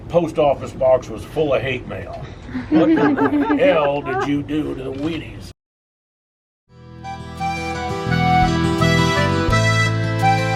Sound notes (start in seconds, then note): 2.5 laughs